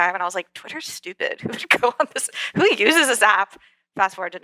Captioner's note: laugh